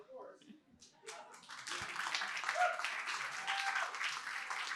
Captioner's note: applause